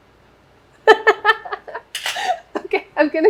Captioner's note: laughs